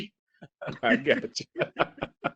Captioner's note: laughs